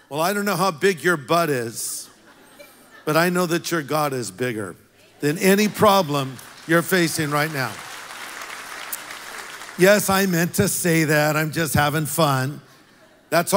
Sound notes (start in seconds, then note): 7.7 congregation applauds